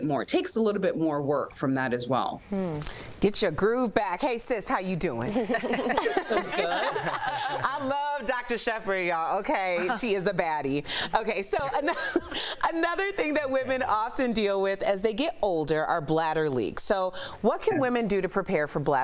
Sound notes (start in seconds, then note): 7.5 laughter